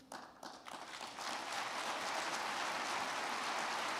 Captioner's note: crowd clapping